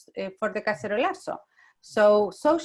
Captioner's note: Spanish